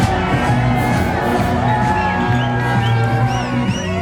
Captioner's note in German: Jubel und Pfiffe